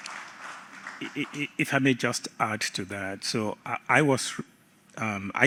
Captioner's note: applause